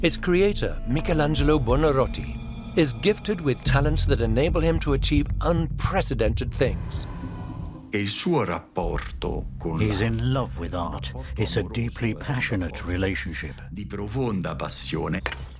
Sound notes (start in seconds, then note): 6.4 suspenseful music; 8.7 in Italian